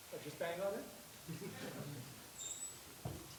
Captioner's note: laughter